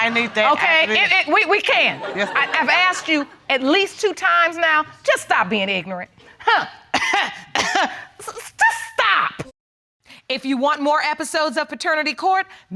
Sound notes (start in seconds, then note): 6.5 coughing